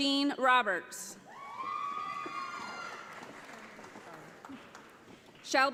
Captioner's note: audience applauds